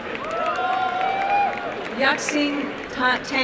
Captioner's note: applause and cheering